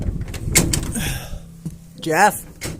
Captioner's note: groans